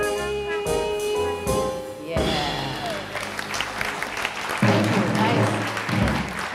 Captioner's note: audience applause